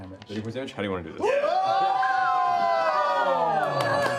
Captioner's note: cheering